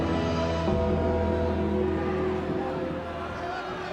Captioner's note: bell tolls